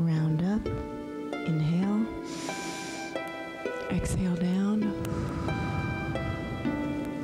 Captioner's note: breath hisses